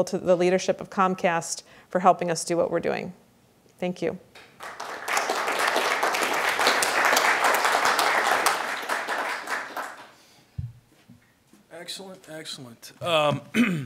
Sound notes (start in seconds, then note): 4.4 applause